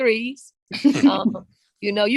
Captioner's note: chuckles